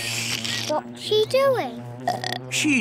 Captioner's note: slurps; belches